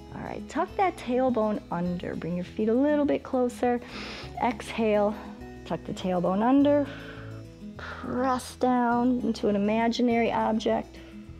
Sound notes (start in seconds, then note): 3.8 inhales; 6.8 exhales